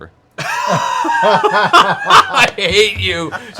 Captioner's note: laughter